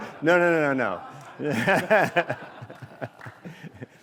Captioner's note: laughter